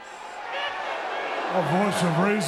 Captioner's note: audience booing